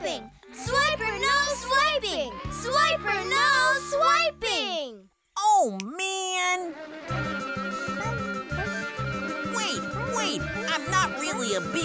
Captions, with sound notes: Swiper, no swiping! Swiper, no swiping! Oh, man. [buzzing] Wait, wait, I'm not really a bee.